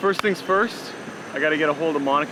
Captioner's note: claps hands